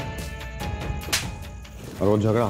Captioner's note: Slapping